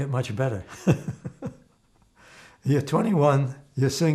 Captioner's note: laughing